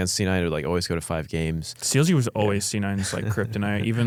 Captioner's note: laughs